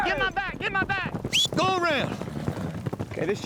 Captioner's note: whistling